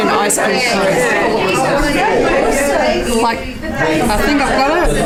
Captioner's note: participant chatter